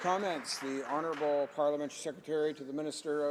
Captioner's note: some Applause